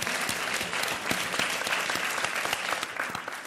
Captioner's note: applauding